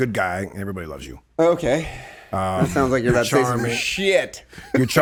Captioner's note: murmurs